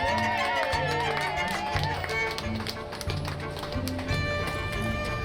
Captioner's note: cheering